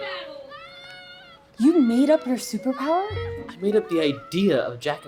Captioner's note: more screams